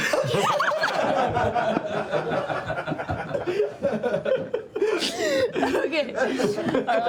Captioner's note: laughter